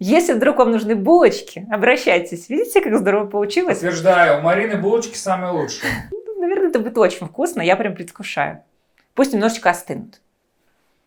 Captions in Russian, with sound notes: Если вдруг вам нужны булочки, обращайтесь, видите, как здорово получилось. — Подтверждаю, у Марины булочки самые лучшие (закадровый голос) Ну, наверное, это будет очень вкусно. Я прямо предвкушаю. Пусть немножечко остынут